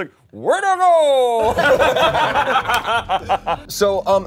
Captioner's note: everyone laughs